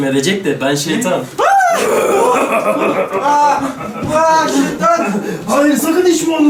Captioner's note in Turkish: Bağırma sesleri